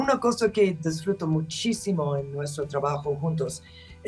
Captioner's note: speaking Spanish